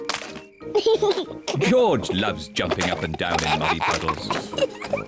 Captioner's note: giggles; giggles, snorts